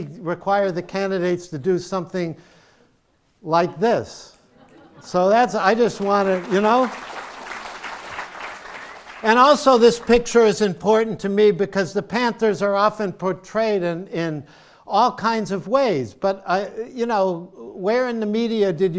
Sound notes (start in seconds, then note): 4.4 laughter; 5.7 applause